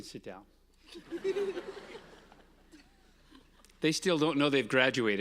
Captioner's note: audience laughing